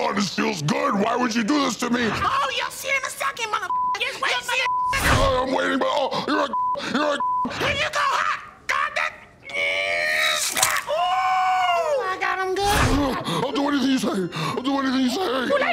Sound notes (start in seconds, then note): 9.7 grunting; 11.1 Key gasps